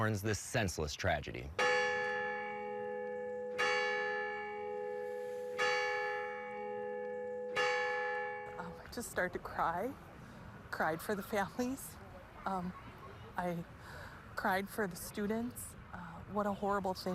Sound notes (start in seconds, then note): 7.7 bell chimes